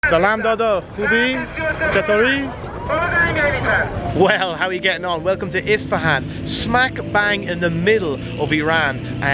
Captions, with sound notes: (foreign language) - Well, how are we getting on? Welcome to Isfahan, smack bang in the middle of Iran,